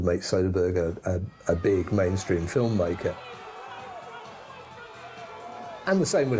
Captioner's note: crowd exclaiming